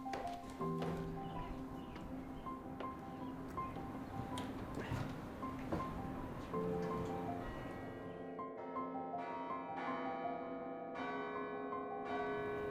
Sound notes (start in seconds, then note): 1.7 birds chirping; 9.3 piano music fades out